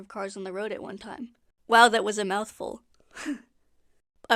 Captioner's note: sigh